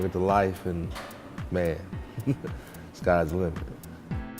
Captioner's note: chuckles; upbeat music